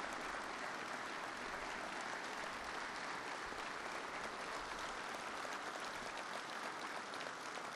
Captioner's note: applause